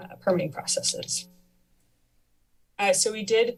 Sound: pause

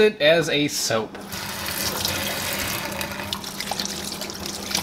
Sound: water splashes

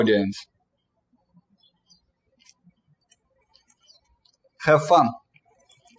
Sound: birds chirping

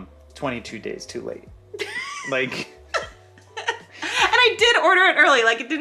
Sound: laughs

